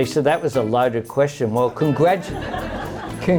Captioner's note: laughter